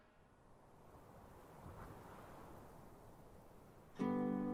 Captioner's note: wind whirling; cool relaxing music